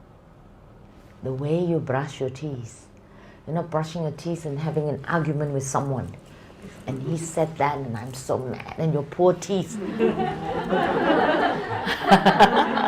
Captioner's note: audience Laughter